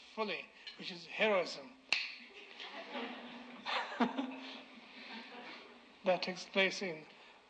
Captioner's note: snap